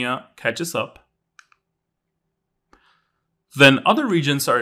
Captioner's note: remote clicking